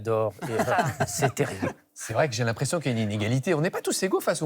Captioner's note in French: rires